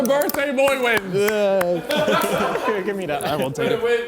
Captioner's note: Calfreezy clapping